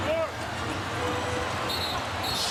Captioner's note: whistle blows